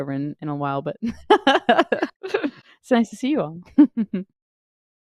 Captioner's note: laughs